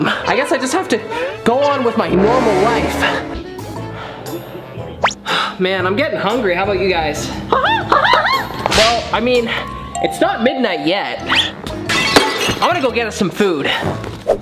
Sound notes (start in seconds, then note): 11.5 plate cracking sound